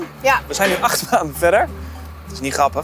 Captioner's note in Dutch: lachend